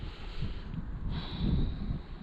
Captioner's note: deep breath